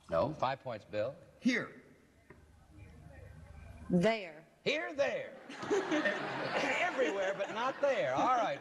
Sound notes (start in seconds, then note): 5.4 laughter